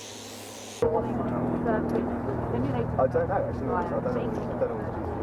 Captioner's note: bystanders chattering